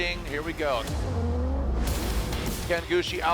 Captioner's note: engine roaring